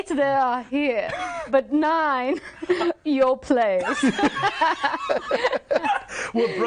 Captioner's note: all laughing